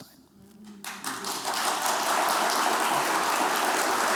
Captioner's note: applause